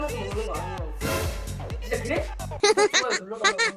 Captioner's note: on the verge of laughing